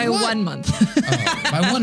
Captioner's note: laughing